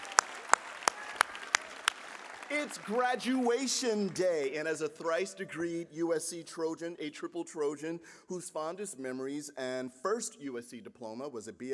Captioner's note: applause